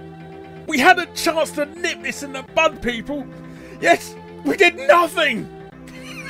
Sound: sobs

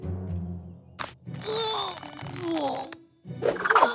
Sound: groaning

